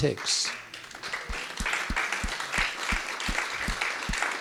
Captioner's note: audience clapping